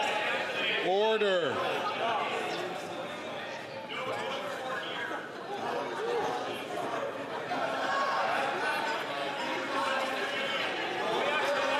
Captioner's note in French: voix de l'interprète